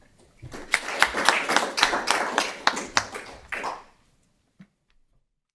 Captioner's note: audience applause